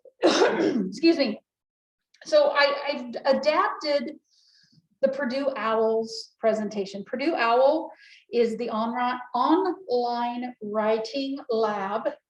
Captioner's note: cough